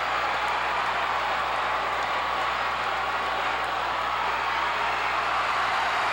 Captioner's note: audience cheering and clapping